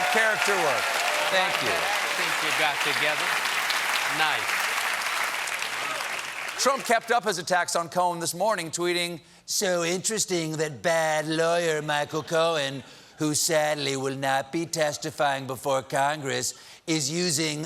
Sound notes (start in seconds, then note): 5.5 applause